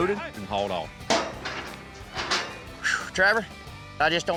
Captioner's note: clanking sound